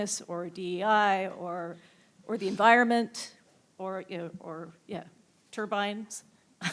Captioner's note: laughs